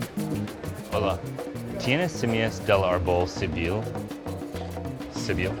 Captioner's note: speaking Spanish